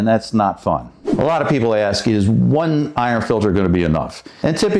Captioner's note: whooshing sound